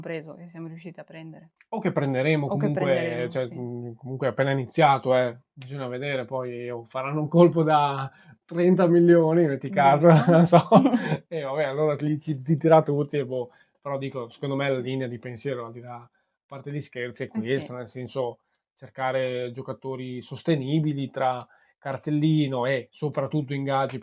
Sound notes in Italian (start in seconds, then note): 9.8 risate